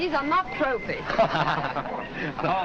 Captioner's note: men laughing